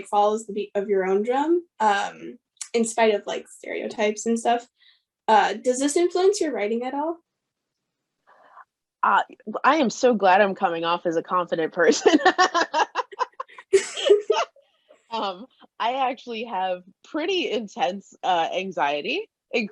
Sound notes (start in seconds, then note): 11.8 laugh